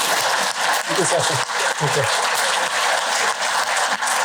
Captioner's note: applause